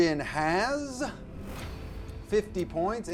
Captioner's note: whooshing noise